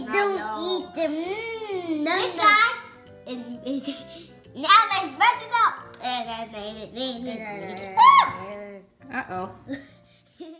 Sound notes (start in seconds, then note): 8.1 squeal; 9.2 voiceover